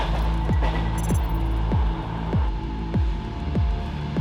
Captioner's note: digital beeping